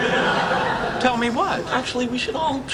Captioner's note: laughing